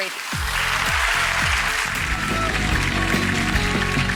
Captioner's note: applause